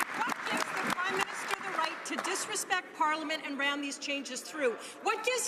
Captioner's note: some Applause